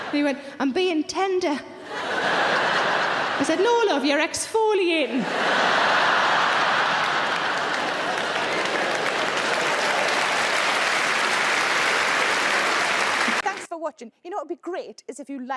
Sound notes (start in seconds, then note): 0.0 audience laughs; 1.8 audience laughs; 8.6 audience applauds